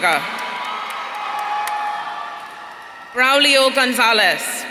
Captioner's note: audience cheering